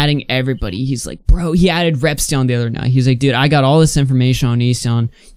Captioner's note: none